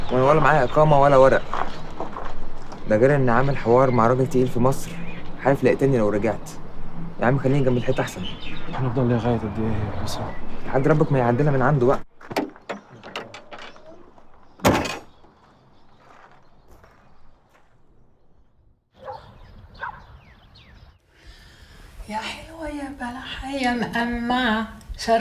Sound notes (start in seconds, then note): 18.9 dog barks